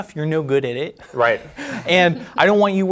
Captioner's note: chuckles